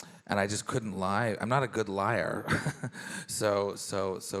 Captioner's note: laughs